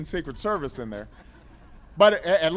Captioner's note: laughter